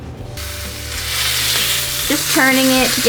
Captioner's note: steak sizzling